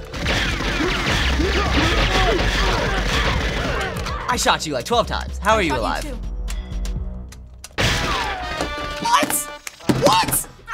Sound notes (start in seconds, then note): 0.0 gunfire, characters groaning; 6.9 clicking; 7.8 gunshot; 8.1 theme music